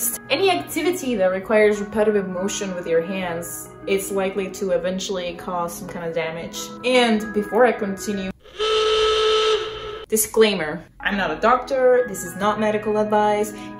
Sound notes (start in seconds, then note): 8.4 alarm sound